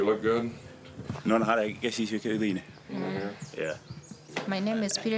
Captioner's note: speaks in native language